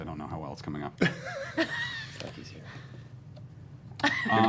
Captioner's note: laughter